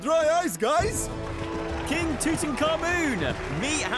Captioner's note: applause